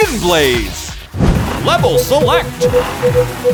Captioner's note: beeping